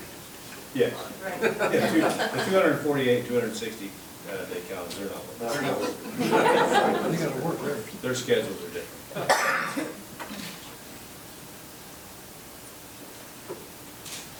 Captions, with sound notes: Yes, the 248, 260 day count zero. (members laughing) They're scheduled today.